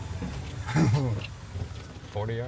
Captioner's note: giggles